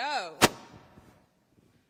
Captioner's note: microphone pops